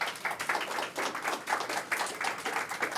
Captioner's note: applause